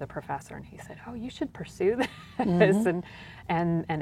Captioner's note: laughs